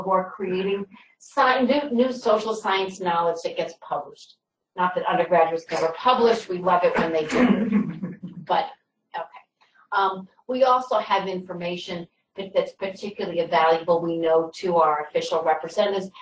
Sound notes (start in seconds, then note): 7.5 laughter